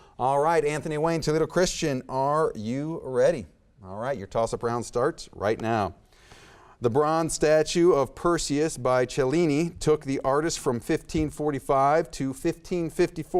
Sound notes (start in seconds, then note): none